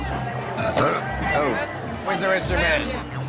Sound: belches

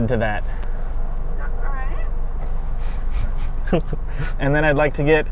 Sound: soft chuckling

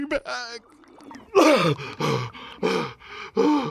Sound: Magnar breathes heavily

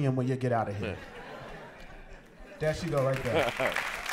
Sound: laughter

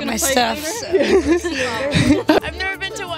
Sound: laughter

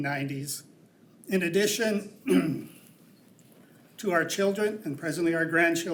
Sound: clears throat

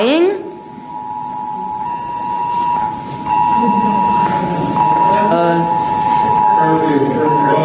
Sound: alarm ringing

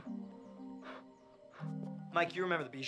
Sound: huffing

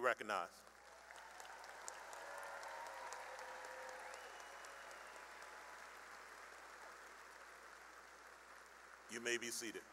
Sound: cheering and applause

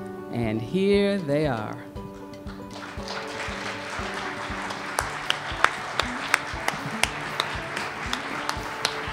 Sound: cheers and applause

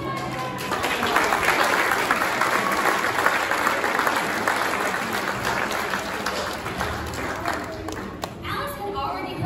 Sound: applause

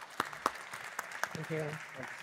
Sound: audience applauds

